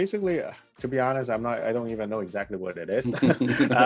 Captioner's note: laughs